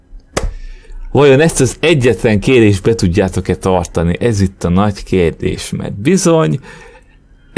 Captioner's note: clap